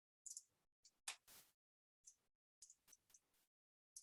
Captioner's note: mouse clicking